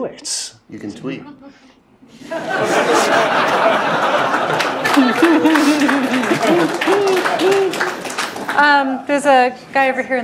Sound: laugh

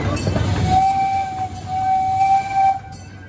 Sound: train whistle

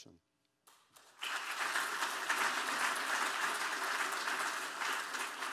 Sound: audience applauding

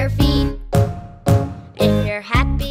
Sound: booming

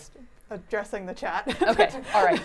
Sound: laughs

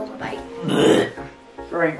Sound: gags

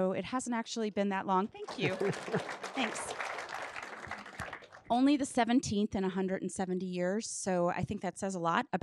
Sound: audience claps

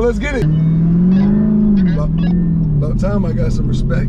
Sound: car engine reving; radio buzzing

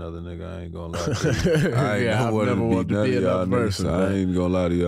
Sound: chuckling

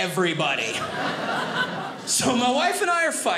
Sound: audience laughing

